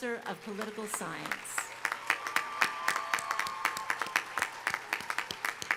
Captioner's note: audience applauding